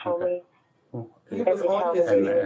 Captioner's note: radio chatter